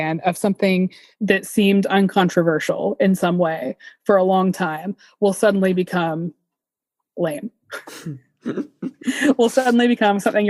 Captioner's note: both chuckle